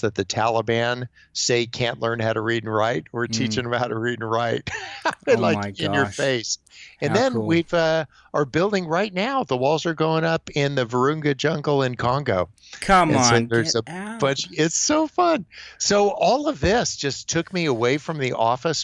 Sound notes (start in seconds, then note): 4.3 chuckles